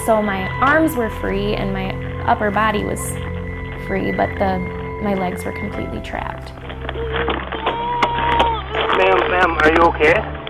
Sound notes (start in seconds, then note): 6.8 crying, banging